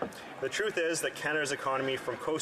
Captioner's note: speaking French